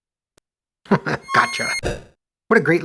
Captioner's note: chuckles